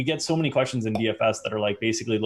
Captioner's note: popping sound